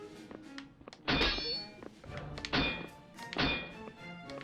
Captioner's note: metal clanging